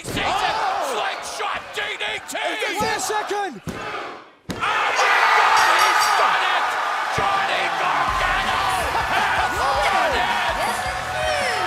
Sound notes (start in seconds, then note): 5.6 bell ringing